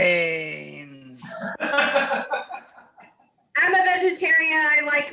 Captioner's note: laughs